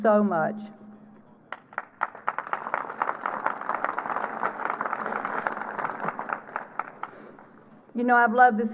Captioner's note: applause